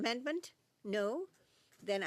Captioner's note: speaking in French